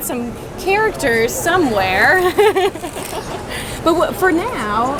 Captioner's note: laughs